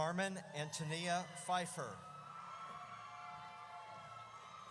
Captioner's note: audience cheers